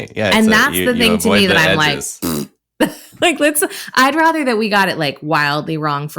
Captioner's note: makes raspberry sound